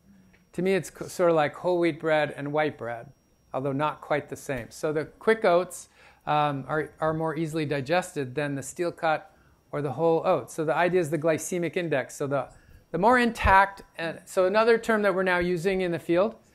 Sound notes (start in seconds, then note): none